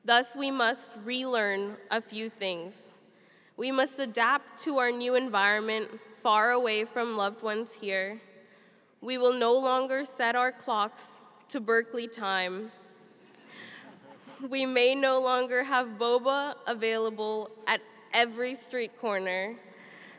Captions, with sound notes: Thus we must relearn a few things. We must adapt to our new environment far away from loved ones here. We will no longer set our clocks to Berkeley time. (chuckling) We may no longer have boba available at every street corner.